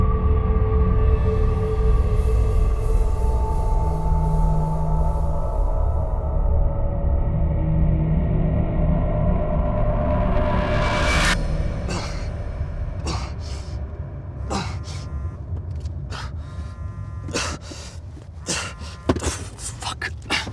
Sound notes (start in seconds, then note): 12.1 Mark grunting; 14.4 phone vibrating